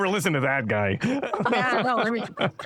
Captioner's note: laughter